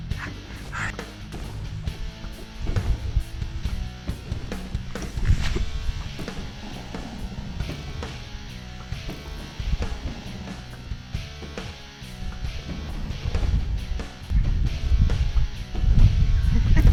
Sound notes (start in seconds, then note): 6.1 dragon roaring; 6.1 upbeat rock music continues